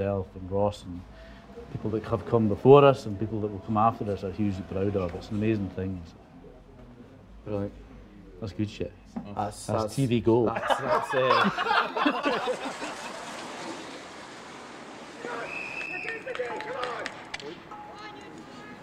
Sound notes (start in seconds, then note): 10.5 everyone laughs; 15.3 whistle blows; 17.0 players yelling